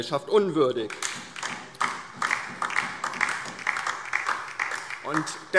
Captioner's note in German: Beifall